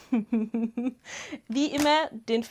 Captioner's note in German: Gelächter